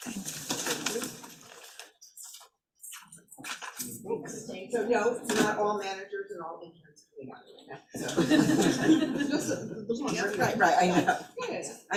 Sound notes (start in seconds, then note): 7.9 attendees laughing